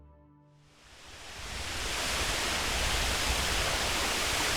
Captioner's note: water rushing